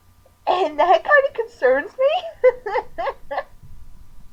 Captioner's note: laughing